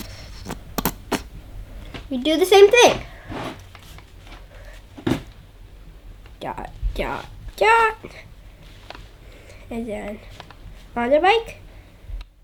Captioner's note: machine sound